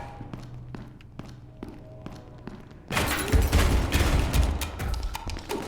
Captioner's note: gunshots